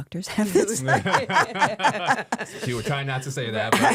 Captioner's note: all laughing